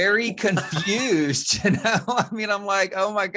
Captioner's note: all laughs